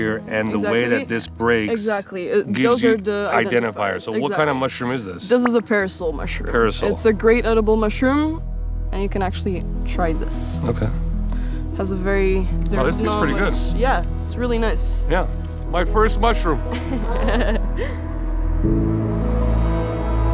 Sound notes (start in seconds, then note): 16.6 laughing; 17.8 soft music